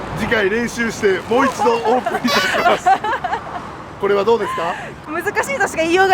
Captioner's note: laughs